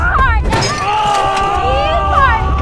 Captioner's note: screaming